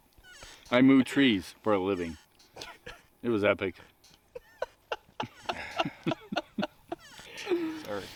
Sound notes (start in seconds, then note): 4.2 laughing